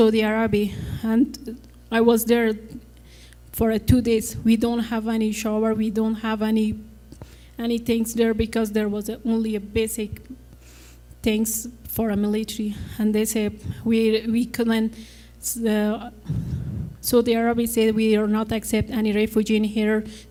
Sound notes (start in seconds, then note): none